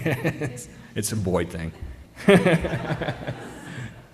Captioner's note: laughter